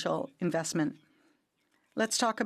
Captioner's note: speaking French